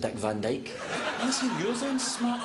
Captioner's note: laughter